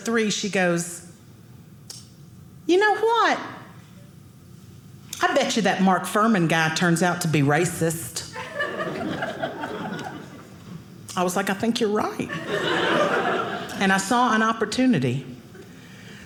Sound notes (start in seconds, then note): 8.4 audience laughing; 12.2 audience laughing